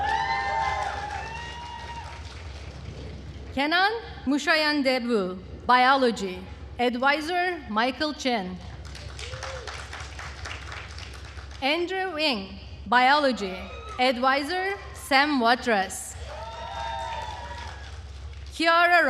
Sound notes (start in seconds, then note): 0.0 attendees cheering and applauding; 8.7 attendees applauding; 16.1 attendees cheering and applauding